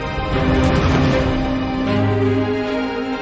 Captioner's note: light thud; dramatic music intensifies